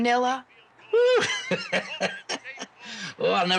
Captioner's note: laughing